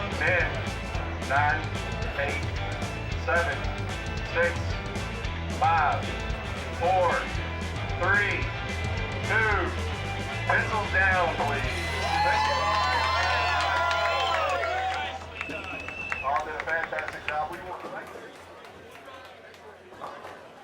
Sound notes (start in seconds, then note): 12.1 cheering